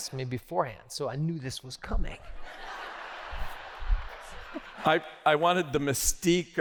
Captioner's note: laughter